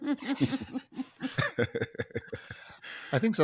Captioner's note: all laugh